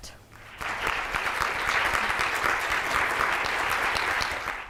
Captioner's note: audience applauding